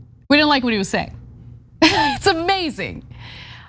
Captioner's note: laugh